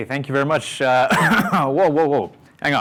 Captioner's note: coughs